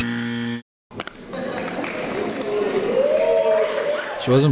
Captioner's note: buzzer; applause